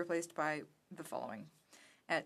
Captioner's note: speaking french